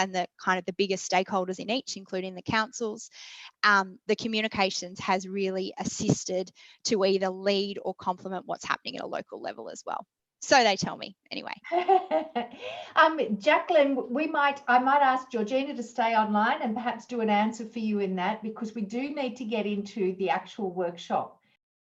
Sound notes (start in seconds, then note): 11.6 laughs